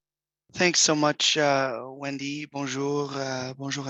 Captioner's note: speaks in French